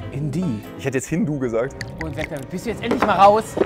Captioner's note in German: Gemächliche Musik; Gluckern